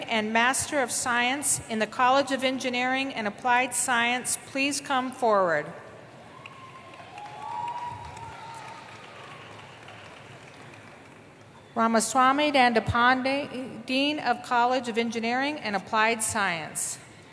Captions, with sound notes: and Master of Science in the College of Engineering and Applied Science please come forward. [APPLAUSE] Ramaswami Dandapani, dean of College of Engineering and Applied Science.